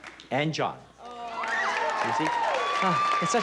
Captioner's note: cheering and applause